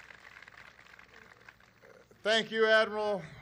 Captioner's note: applause